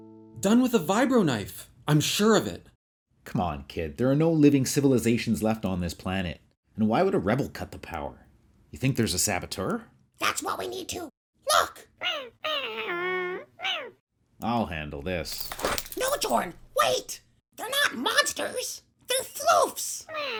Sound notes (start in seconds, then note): 11.4 small creature yelps